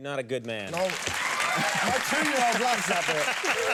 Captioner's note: audience cheers